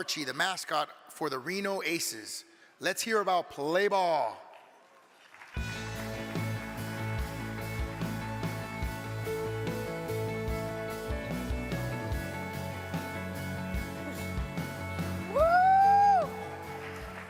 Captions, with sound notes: the mascot for the Reno ACEs. Let's hear about Play Ball. (energetic music) (crowd clapping) - Woo.